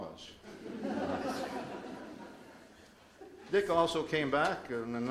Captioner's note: audience laughs